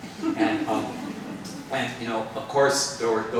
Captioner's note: participants laughing